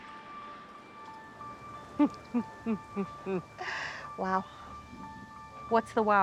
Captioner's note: chuckles